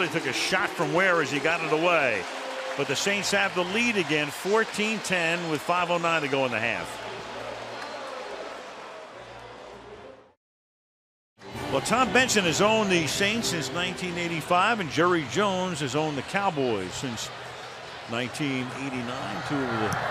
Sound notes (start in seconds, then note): 7.8 pa announcement